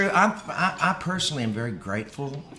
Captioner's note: laughs